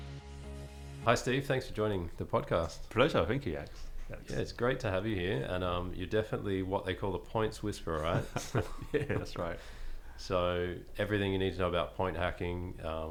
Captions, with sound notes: Hi Steve, thanks for joining the podcast. - Pleasure, thank you Alex. - Yeah, it's great to have you here and you're definitely what they call The Points Whisperer, right, so yeah, that's right. (laughing) So everything you need to know about point hacking,